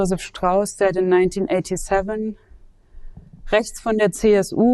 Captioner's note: speaks German